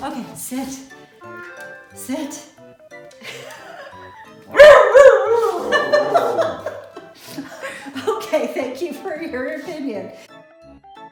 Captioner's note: laughing